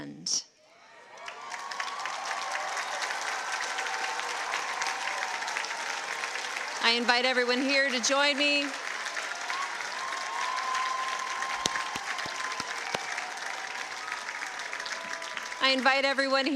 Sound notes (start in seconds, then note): 8.4 cheers and applause